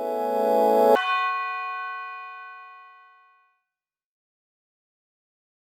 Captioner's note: light electronic chime